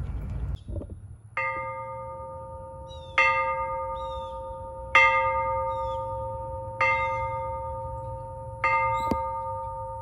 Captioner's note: church bell ringing